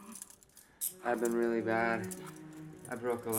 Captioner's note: handcuffs clicking